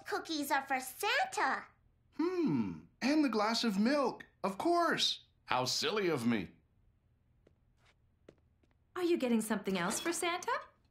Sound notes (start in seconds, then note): none